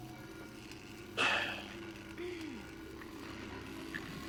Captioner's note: sighs